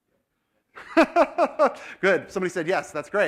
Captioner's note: laugh